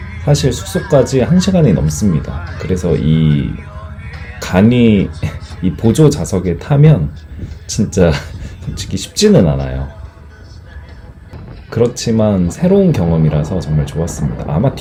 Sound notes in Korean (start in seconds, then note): 4.4 웃음